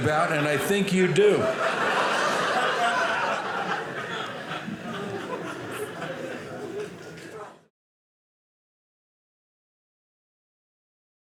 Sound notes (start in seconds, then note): 1.9 audience laughing